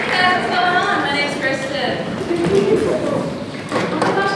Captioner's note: sighs